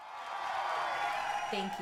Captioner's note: cheering crowd